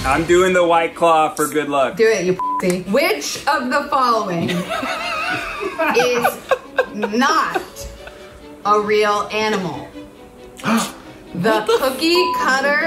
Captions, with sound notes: - I'm doing the White Claw for good luck. - Do it, you pussy. - Which of the following (laughing) is not a real animal? - What the (beep)? - The Cookiecutter Shark,